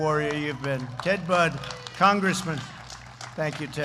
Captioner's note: applause